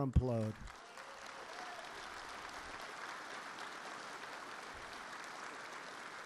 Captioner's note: applause